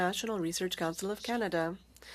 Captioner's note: speaking French